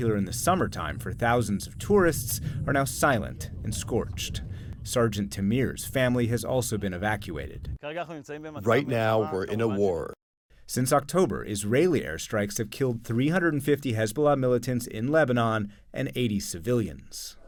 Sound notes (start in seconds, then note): 9.5 through translator